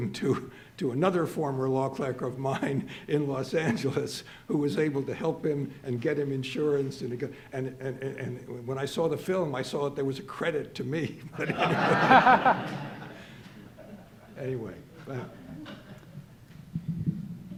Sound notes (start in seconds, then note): 11.3 audience laughing